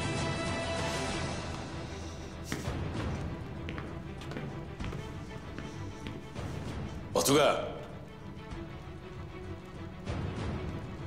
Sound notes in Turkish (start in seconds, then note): 2.5 Adım Sesleri